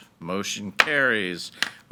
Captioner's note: gavel bangs